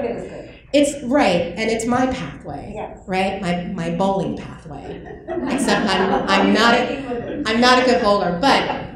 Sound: laughter

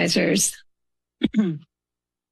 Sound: clears throat

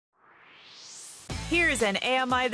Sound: swoosh

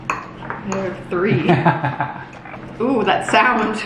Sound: laughs

